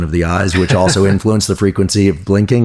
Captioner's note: laughs